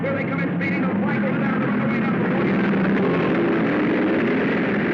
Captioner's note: cars revving